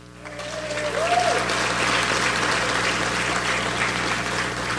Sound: audience applauds

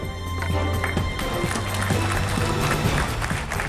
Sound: applause

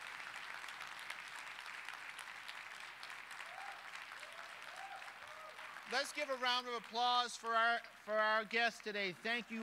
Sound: applause

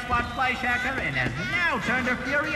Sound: laughs maniacally

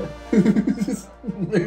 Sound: laughing

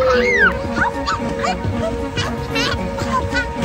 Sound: excited noises

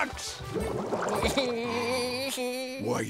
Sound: whimpering

